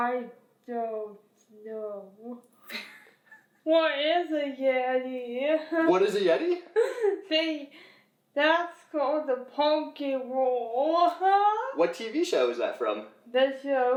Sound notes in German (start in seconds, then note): 2.7 lacht; 6.7 lacht